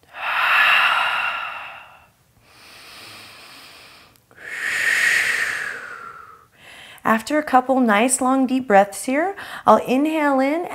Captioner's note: breaths